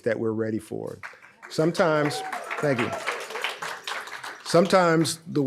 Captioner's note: audience applauds